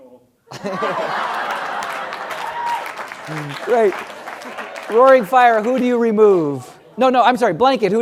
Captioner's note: laugh; applause